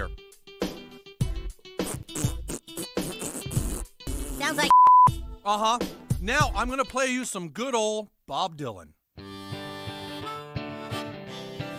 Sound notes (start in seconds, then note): 0.1 pop music plays; 4.6 beep; 9.2 folk music